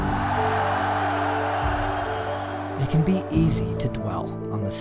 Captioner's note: loud roar from crowd